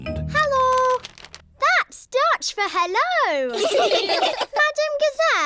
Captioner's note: laughter